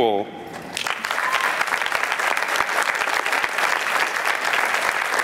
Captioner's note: applause